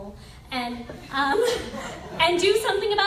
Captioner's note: laughs